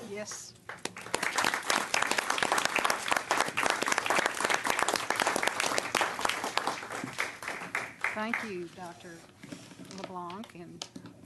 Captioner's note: applause